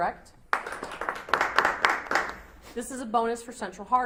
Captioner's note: audience applauds